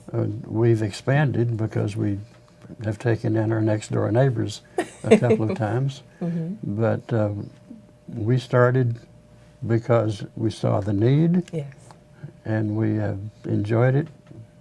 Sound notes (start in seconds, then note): 4.7 laughing